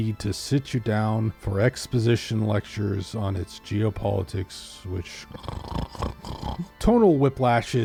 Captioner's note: snores